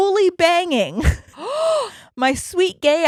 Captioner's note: gasping quickly